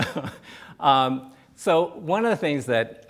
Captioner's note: laughs